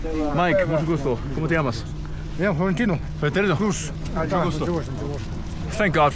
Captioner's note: speak foreign language